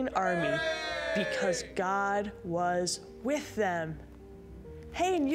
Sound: men cheering

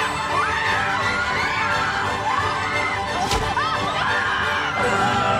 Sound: scream

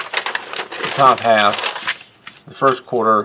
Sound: paper crinkles

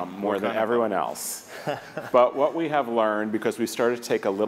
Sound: laugh

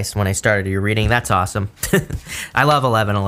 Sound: laughs

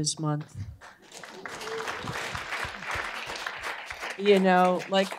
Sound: applause

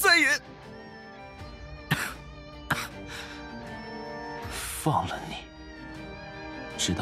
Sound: coughs

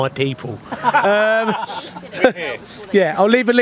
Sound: laughter

